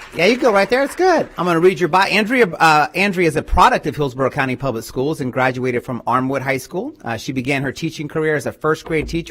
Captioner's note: applause